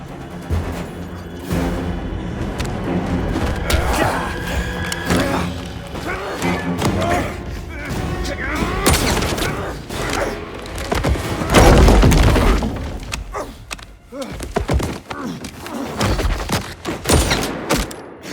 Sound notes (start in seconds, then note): 7.3 groaning; 11.8 groaning and screaming